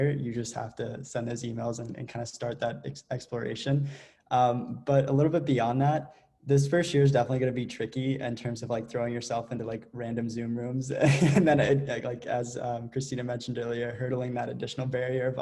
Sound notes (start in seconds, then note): 11.0 laughs